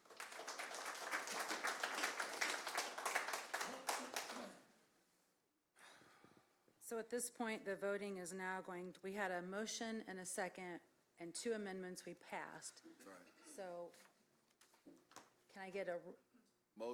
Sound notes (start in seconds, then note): 3.0 applause